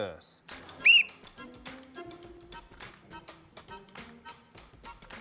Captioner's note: whistle blows